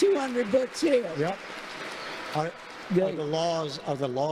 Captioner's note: congregation applauding